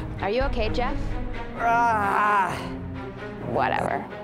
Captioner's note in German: grunzt vor schmerz